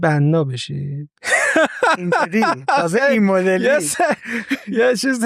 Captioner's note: laughs